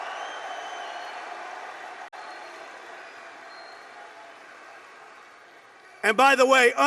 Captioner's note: applause